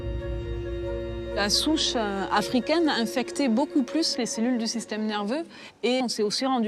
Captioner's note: speaks in foreign language